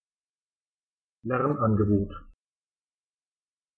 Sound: fast Pronunciation

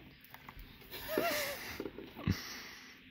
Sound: suffocates

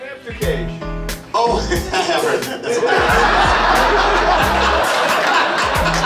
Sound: audience laughing

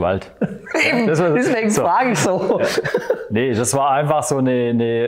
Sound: laughs

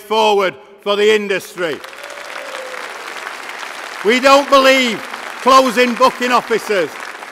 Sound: applause

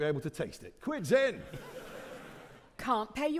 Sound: audience laughing

